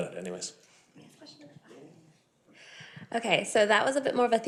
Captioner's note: speaking faintly